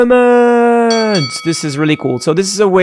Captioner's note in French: cloche qui sonne